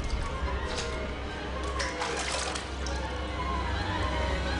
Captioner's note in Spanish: Sonido del agua al lavarse